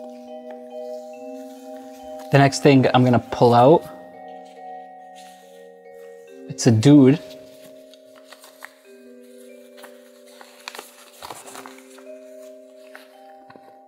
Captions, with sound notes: (eerie music) The next thing I'm going to pull out... It's a dude. (paper rustles)